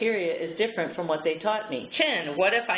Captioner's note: is repeating phrases